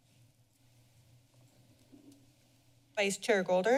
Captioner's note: silence